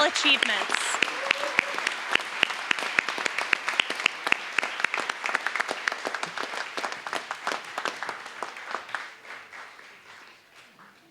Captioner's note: applause